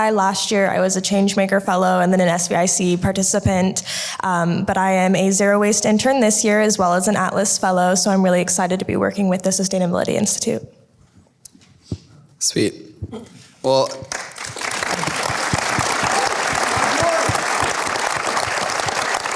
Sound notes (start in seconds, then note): 14.0 applause